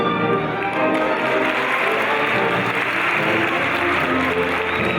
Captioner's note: audience applauding